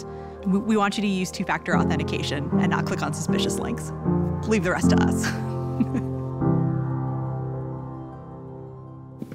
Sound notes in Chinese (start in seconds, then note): 5.6 笑聲